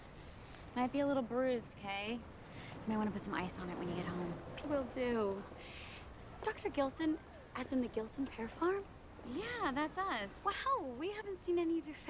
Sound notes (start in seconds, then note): none